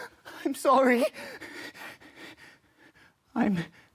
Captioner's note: heavy breathing